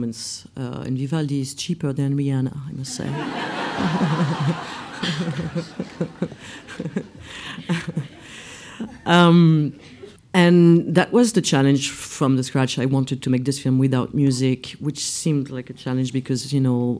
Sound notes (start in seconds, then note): 3.0 laughs